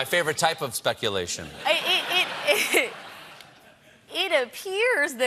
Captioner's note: laughter